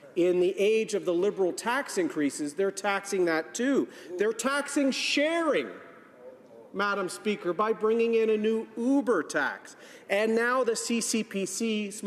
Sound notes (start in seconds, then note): none